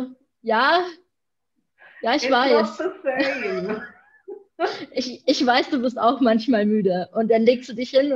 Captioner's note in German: lacht